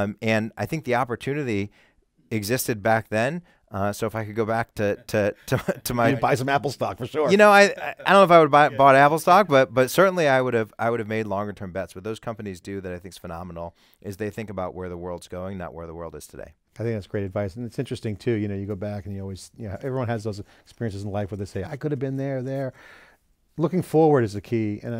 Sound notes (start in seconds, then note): 7.3 laughs